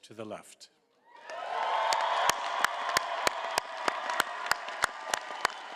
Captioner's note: audience applauding and cheering